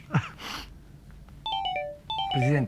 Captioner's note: phone ringing